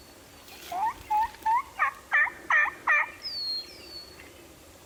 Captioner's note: imitates gobbling